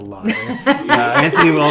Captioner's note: laughing